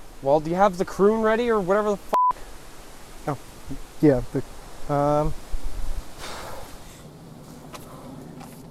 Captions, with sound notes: -Well, do you have the croon ready, or whatever the f**k? -Oh! Yeah. Um... [STOKE EXHALES]